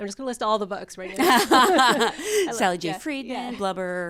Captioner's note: all laughs